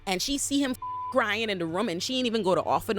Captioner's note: beep